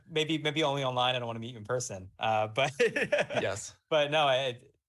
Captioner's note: laughs